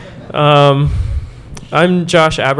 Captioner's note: laughter